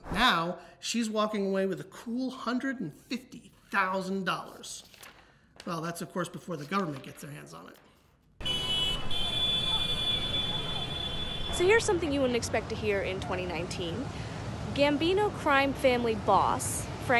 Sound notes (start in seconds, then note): 8.4 horns blaring